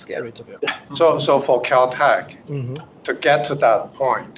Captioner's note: hums